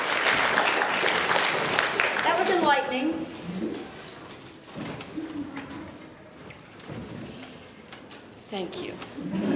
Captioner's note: applause